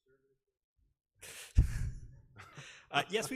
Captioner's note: laughing